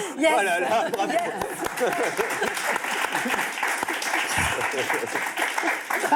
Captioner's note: applause